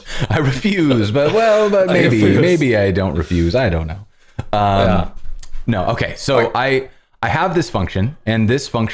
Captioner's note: laughter